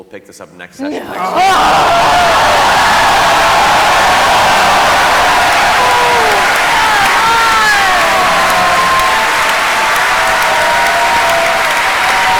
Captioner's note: cheering and applause